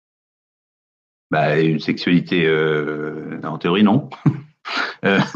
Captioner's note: light chuckle